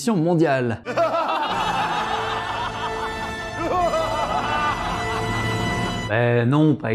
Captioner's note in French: Rires démoniaques